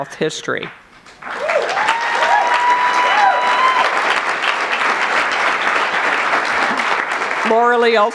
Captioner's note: cheers and applause